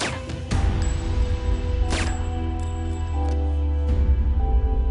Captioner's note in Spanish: Disparos